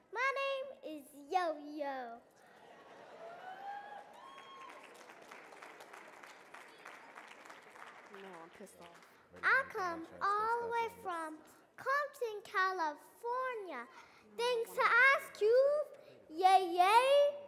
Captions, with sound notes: My name is Yo-Yo. (audience cheering) I come all the way from Compton, California thanks to ask Ice Cube. Yeah, yeah.